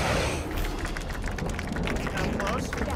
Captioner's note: applause